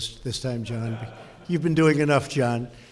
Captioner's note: laughter